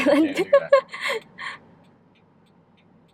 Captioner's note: laughs